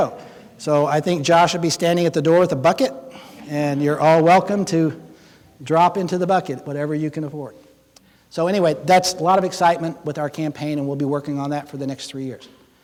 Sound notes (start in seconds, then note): 3.4 audience laughing